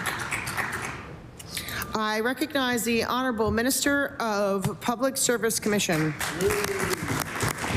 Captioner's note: applause